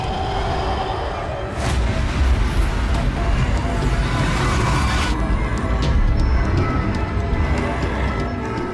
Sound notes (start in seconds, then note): 3.2 intense ominous music; 3.2 monster growling